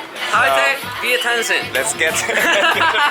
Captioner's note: instructor speaking In Foreign Language